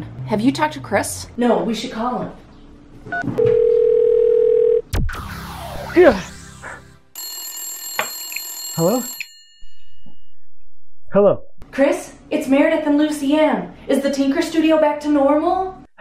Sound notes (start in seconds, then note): 7.1 phone ringing